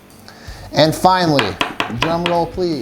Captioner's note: bangs